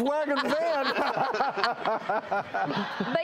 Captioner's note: laughs